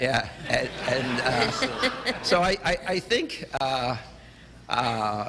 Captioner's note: laughter